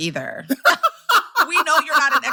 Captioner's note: laughter